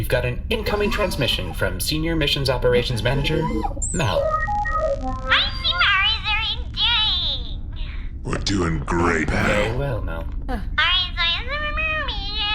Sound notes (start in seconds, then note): 3.4 transmission-start noise